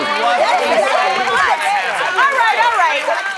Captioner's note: overlapping chatter